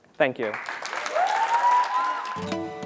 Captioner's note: applause